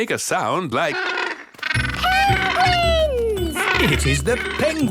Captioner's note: honking